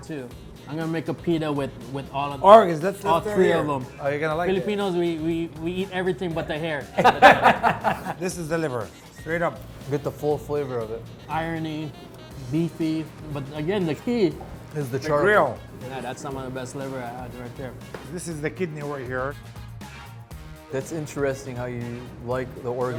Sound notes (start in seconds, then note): 6.9 laughter